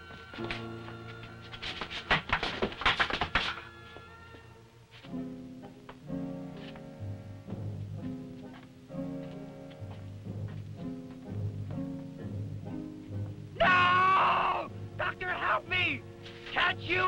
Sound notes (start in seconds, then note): 2.6 crates clattering; 5.4 tense music; 13.6 screaming